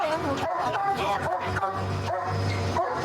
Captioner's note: barking